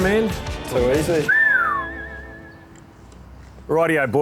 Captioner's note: whistles